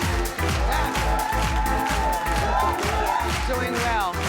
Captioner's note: audience whoops